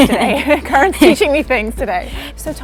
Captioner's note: laughing